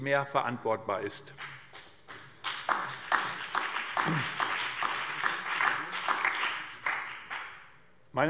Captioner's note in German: Beifall BÜNDNIS 90/DIE GRÜNEN und DIE LINKE